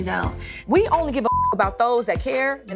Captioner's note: beep